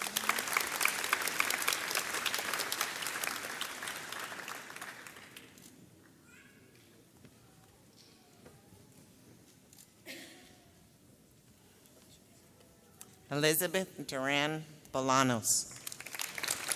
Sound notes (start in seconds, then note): 0.0 audience applauds; 7.2 camera clicks